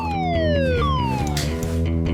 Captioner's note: dramatic music; alarm blaring